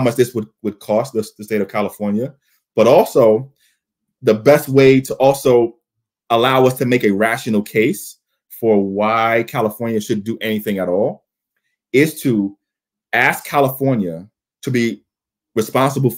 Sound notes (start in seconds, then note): none